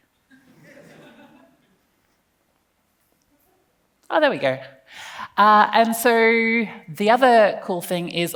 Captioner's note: laughs